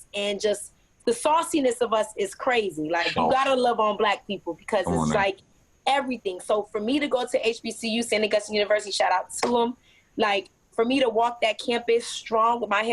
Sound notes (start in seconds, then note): 9.8 claps